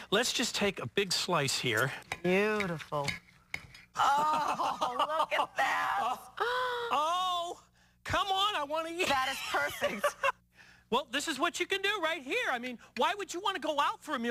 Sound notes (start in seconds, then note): 4.0 laughs; 7.9 gasps